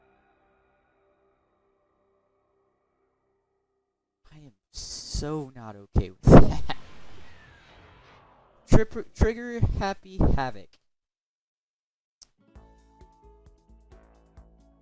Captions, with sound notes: I am... so not ok with that (laughs nervously) Tripp- Trigger Happy Havoc. (happy music plays)